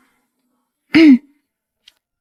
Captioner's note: ahem